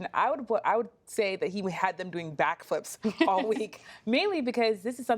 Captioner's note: laughter